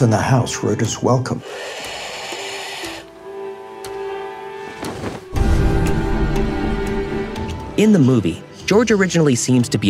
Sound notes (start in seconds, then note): 1.4 bird hissing; 2.9 suspenseful music